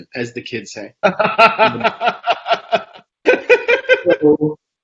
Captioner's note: laughs